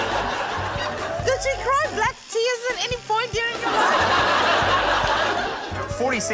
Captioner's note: laughter